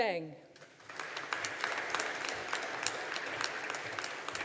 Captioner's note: audience applauding